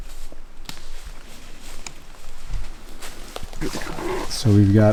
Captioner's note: footsteps pattering; leaves rustling